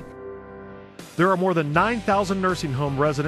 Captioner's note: voiceover